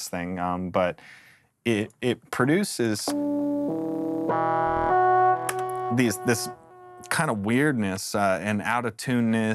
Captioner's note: digital tones